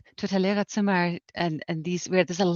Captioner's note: speaks in foreign language